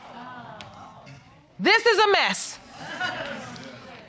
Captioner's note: audience laughing